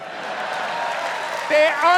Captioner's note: applause and cheering